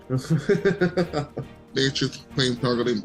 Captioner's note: laughs